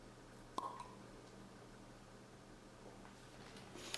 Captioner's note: wine uncorking